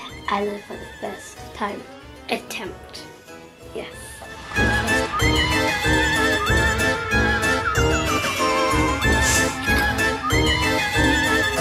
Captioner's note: laughs